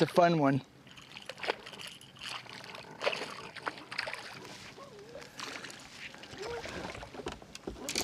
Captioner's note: splashing